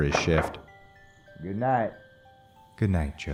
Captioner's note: door opening